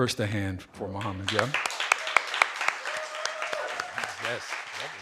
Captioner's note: audience applauding; audience cheering